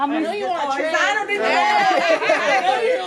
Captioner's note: laughs